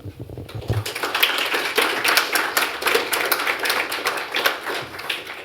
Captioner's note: applause